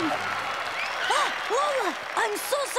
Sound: gasping

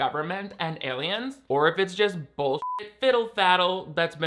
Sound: beep

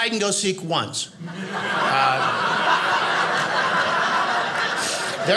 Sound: audience laughing

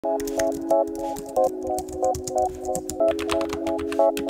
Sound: gentle upbeat music; keyboards clicking

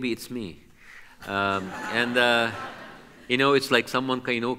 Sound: audience laughs

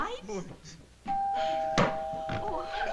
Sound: doorbell rings

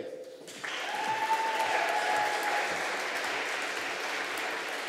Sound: audience applauding

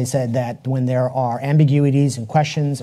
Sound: none

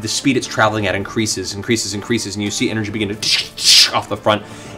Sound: crackle

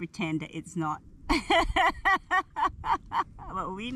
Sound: laughter

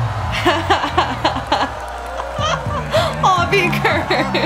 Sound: laughs

